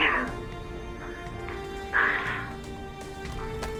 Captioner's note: rover whirring